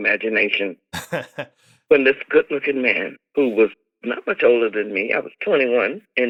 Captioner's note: laughter